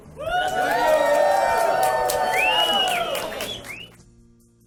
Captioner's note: crowd cheering and applauding; mellow music